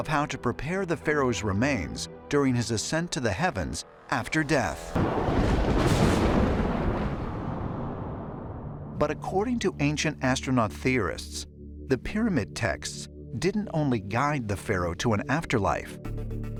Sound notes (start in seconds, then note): 7.5 rolling thunder